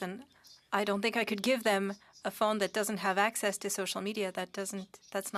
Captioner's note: speaking French